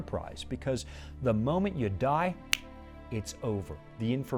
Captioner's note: snapping fingers